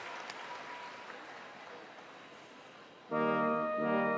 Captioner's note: cheers and applause